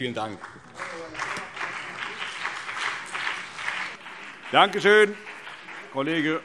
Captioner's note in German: Beifall BÜNDNIS 90/DIE GRÜNEN und vereinzelt CDU